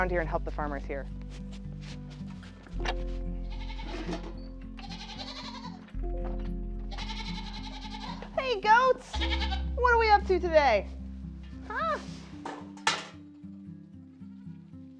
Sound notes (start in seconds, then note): 3.7 gentle music; 4.7 goats bleating